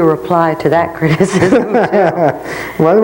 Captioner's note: laughs